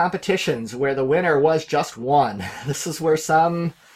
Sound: laughing

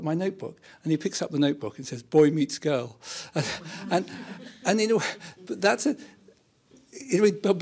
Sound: laughter

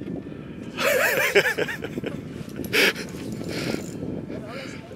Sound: laughs

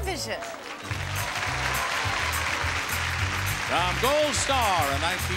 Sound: audience cheering

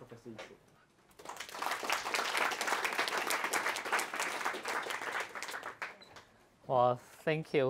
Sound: applause

